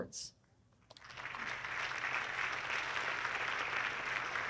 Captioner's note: audience clapping